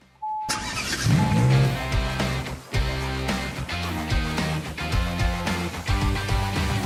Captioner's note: beeping; rock music; engine revving; rock music